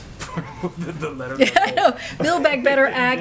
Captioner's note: laughs